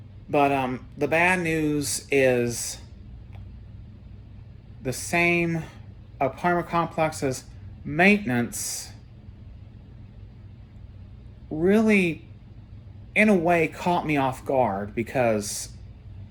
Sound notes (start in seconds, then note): none